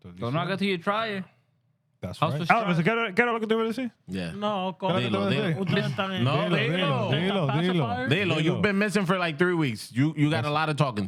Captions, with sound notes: So now I got to try it. That's right. Elvis, can I look at the real scene? No, go. (Speaking Spanish) No, they know. Pass the fire. They know. You've been missing for like three weeks. You got a lot of talking.